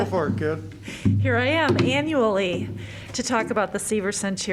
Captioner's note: laughter